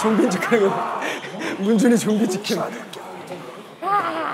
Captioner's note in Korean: 웃음기 가득한 음성